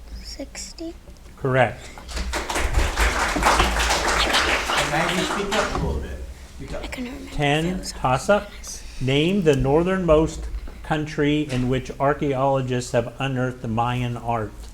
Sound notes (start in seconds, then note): 2.0 audience applauding